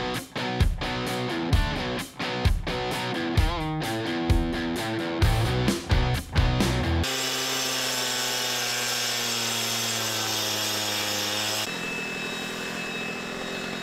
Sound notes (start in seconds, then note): 7.0 saw buzzing